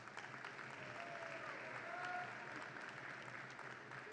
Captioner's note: audience claps